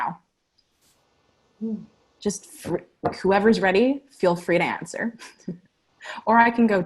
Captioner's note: laughter